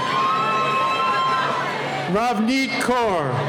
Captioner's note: cheering